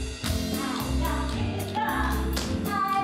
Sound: jazz music; singing; tap dancing

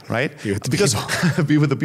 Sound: chuckles

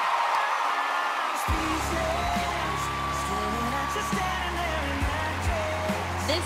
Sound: cheers and applause

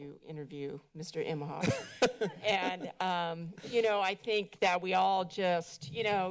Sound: laughter

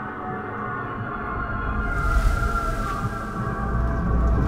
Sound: eerie Whoosh

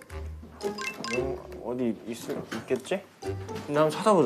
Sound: clock again

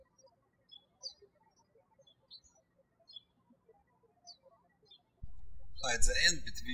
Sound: birds chirping

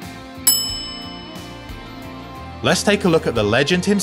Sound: bell dings

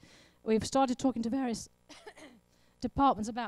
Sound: coughs

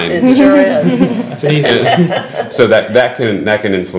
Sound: laughing

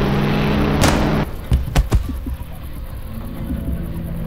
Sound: machine whirring; suspenseful music; gun firing

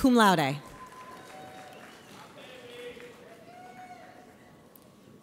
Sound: audience applauds

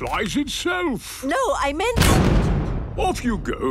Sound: blasts off

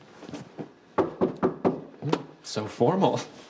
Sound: door knocking

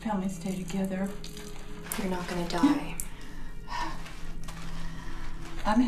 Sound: sighs

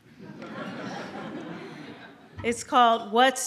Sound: audience laughs

